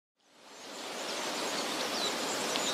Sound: forest sounds

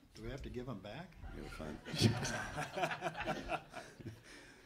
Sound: audience laughs

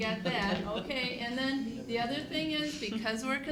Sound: laughter

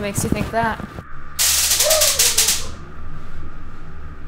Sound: taser, muffled screams

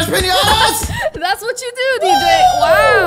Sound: laughing

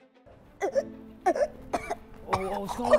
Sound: suspenseful music; child choking

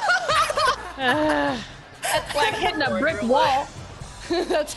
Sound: laugh

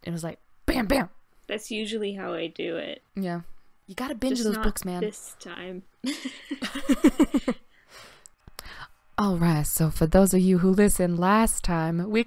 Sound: laughter

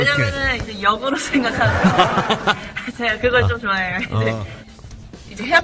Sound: laughing

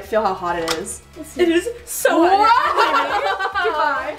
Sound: laughs

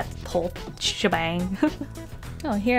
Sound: laughs

